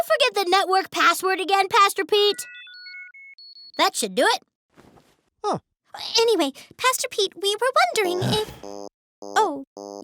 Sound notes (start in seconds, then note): 2.2 device beeping